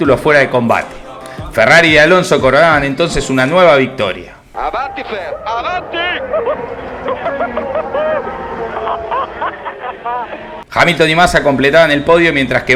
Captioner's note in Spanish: radio